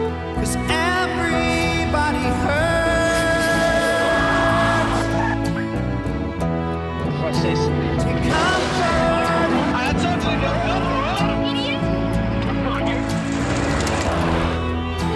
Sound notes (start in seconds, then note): 2.4 horn blares; 2.8 tyres screech